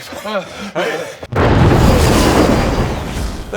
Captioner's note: thunder crash